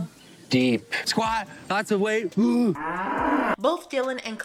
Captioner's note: cow moos